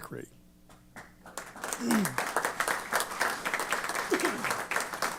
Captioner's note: applause